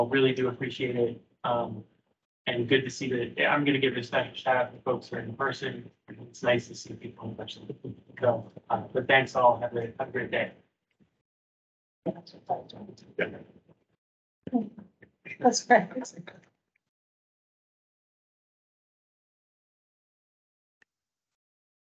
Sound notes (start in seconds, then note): 8.1 speaking faintly; 13.2 group chattering